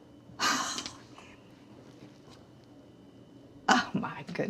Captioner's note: Dory exhales